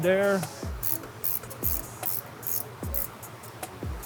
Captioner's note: screw squeaking